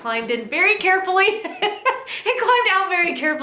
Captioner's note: laughing